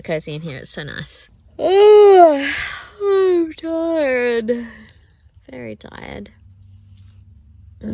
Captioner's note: yawns loudly and says in 'yawn'